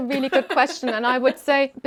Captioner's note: laughing